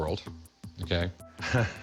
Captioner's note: chuckles